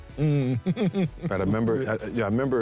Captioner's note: chuckling